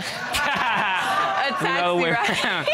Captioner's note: laughs